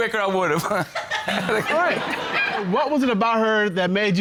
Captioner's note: audience laughing